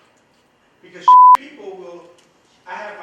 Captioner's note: beep